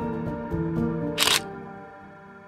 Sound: camera shutter

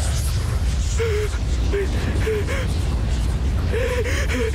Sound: sobbing

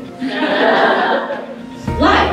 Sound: laughter

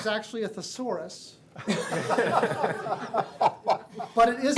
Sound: laughing

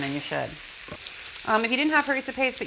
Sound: sizzling

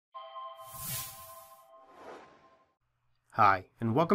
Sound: swoosh

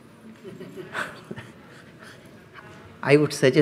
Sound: laughs

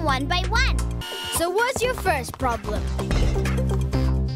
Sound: whirring

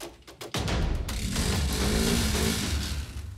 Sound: engine revs

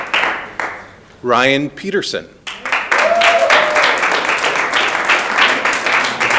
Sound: audience applauding

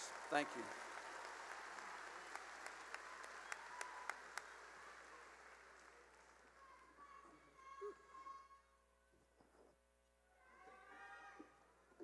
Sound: cheering and applause

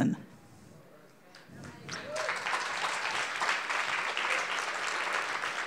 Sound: audience clapping

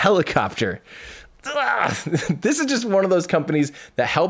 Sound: groans excitedly

